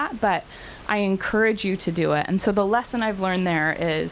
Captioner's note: none